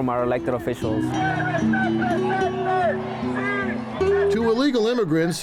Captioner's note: protestors shouting